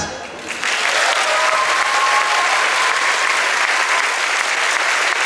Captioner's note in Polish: oklaski